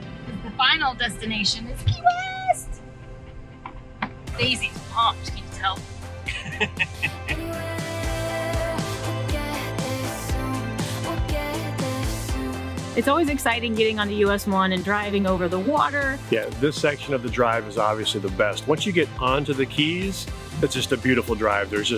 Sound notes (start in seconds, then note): 6.2 laughing